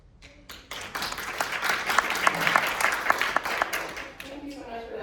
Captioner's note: audience applauding